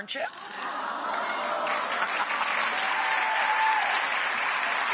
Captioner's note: audience cheering